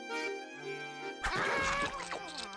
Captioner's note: munching